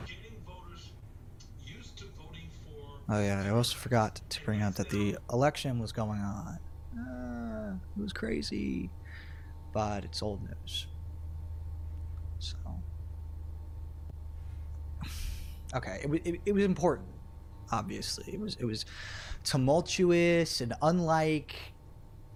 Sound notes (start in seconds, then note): 15.0 sighs